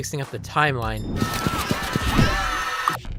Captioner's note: screaming